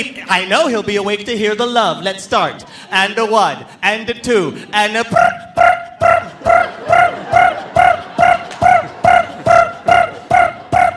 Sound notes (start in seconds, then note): 4.3 chirps